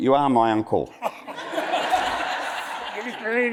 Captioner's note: audience laughs